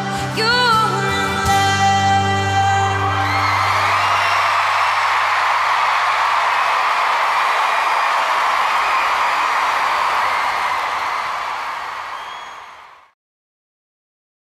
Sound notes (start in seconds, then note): 3.4 cheers and applause